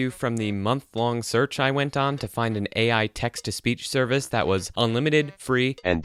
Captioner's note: Microsoft TTS voice